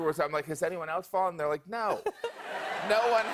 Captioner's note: laughter